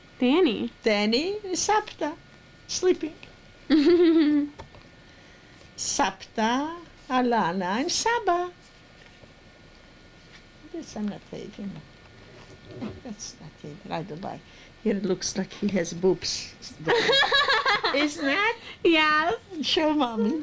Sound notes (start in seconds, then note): 3.7 laughs; 16.8 laughs